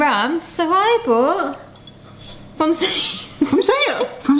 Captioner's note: laughing